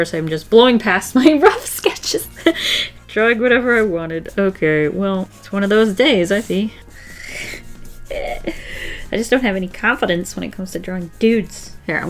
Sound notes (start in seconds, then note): 0.1 through laughter; 7.4 nervous chuckle